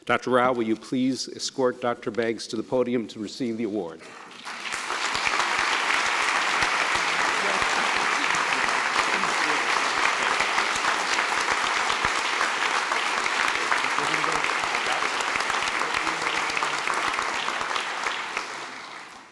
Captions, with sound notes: Dr. Rao, will you please escort Dr. Banks to the podium to receive the award. (Applause)